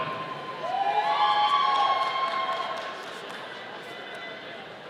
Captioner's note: audience cheering